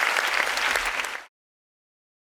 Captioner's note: applause